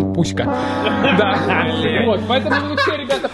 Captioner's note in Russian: смеются